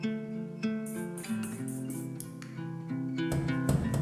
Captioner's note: can spraying; key rattling